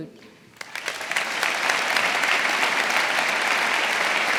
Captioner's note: audience applauding